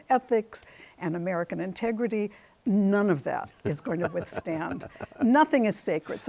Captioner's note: chuckles